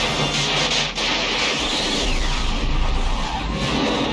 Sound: explosion

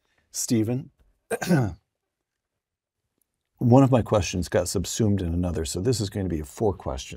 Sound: cough

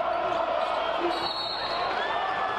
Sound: whistle blows; applause

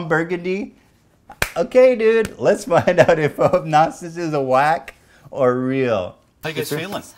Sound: clap!

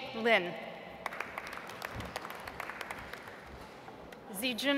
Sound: audience applauds

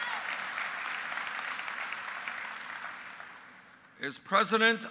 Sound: applause

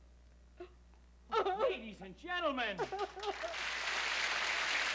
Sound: Julia sobbing; applause

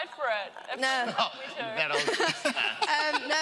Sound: indistinct chatter

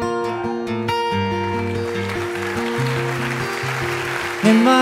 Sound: wistful guitar music; audience cheering

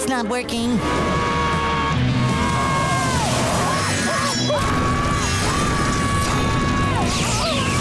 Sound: screaming

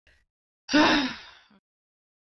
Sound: defeated sigh

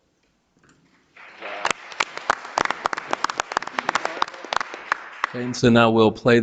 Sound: audience applauding

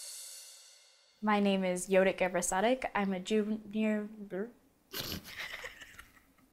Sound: laughing

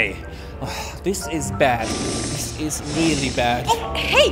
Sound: sigh

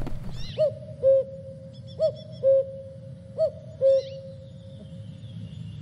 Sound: cockoo, cockoo

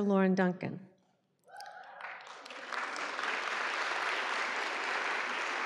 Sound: applause

